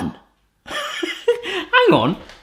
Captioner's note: laughing